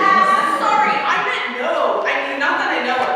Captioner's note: audience laughing